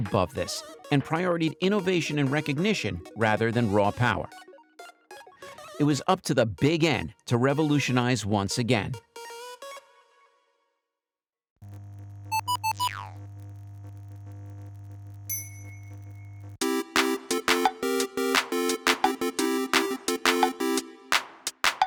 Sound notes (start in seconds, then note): 12.2 video game sounds; 16.6 video game music